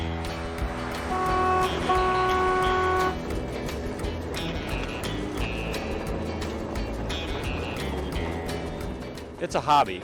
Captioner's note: train horn, rumble of train